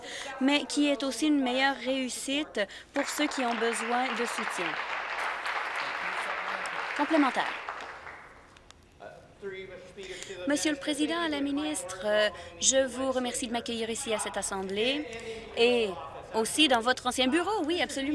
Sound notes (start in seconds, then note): 5.7 applause